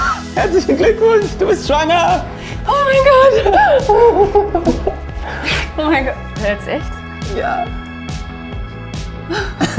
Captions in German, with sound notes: Herzlichen Glückwunsch, du bist schwanger! O mein Gott! (Lachen) O mein Gott. Jetzt echt? - Ja.